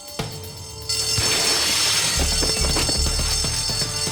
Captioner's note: alarm continues blaring